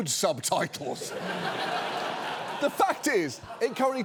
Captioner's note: studio audience laughs